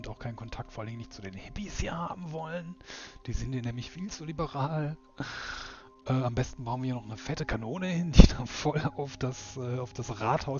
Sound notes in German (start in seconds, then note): 5.2 seufzt